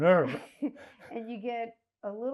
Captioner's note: laughing